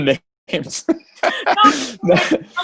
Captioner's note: all laugh